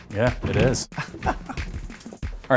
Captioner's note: laughs